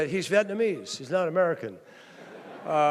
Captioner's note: laughter